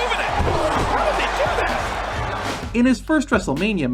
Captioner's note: crowd cheering